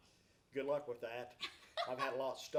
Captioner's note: laughs